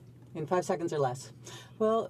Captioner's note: speaking French